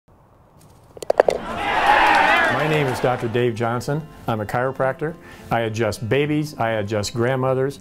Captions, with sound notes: [Cheering.] My name is Dr. Dave Johnson, I’m a chiropractor. I adjust babies, I adjust grandmothers,